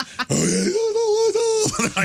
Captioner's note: laughing